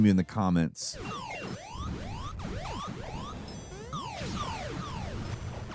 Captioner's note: games dinging and beeping